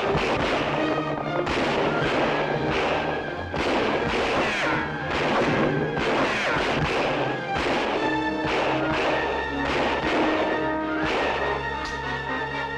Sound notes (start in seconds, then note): 4.4 bullets ricocheting; 11.8 clicks